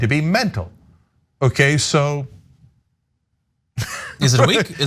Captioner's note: laugh